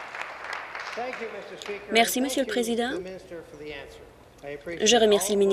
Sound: applause

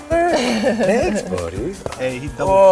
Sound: laughing

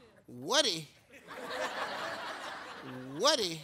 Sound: audience laughs

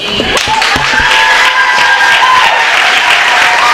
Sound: applause

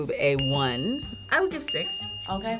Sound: bell dinging

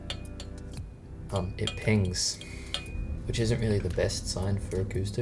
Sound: pinging noises grr

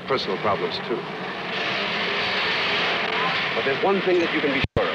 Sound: Traffic

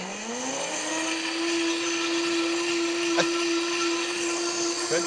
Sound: blender whirring

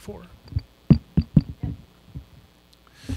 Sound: finger thumps on mic

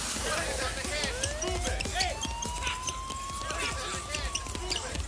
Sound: sirens wailing

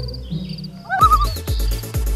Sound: loon call

